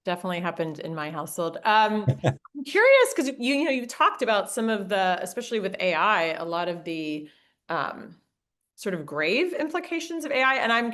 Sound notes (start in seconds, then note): 2.0 laughing